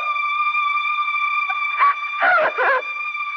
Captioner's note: Crying